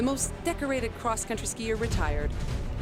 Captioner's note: speaking French